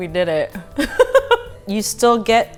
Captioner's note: laughing